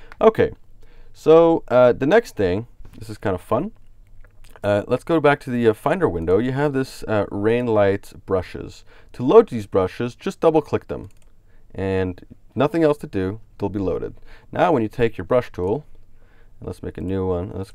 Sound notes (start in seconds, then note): 11.0 clicks on mouse